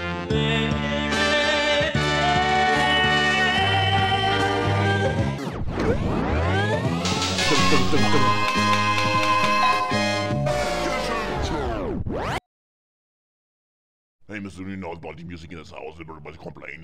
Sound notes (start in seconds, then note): 0.2 blissful rock music; 5.7 record scratch; 8.3 whip sounds; 9.6 doorbell; 10.8 record scratch